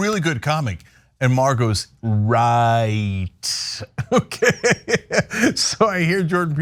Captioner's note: laugh